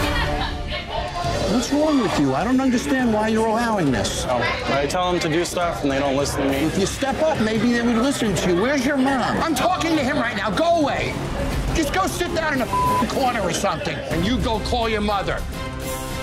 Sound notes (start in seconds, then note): 12.6 beeping; 15.9 tense music